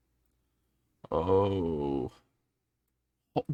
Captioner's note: groans